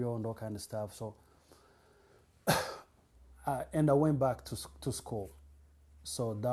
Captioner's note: pauses for 3 seconds